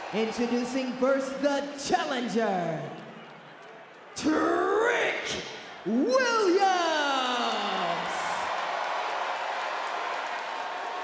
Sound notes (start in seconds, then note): 7.3 crowd cheers